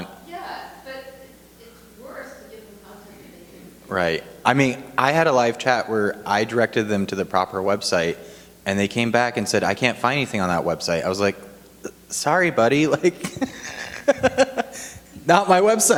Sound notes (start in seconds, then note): 12.9 laughing